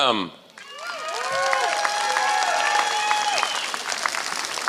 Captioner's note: applause